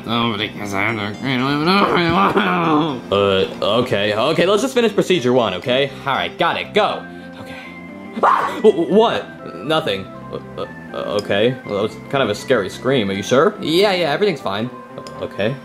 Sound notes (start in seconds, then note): 1.6 murmurs; 8.2 Junior screams